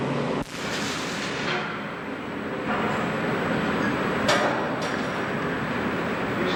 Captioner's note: clanging and welding noises